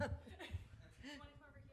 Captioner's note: laughter